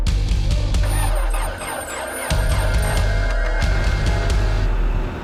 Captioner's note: starter noise